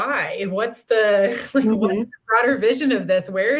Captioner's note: laughter